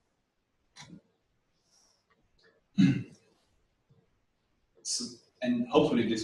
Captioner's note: pause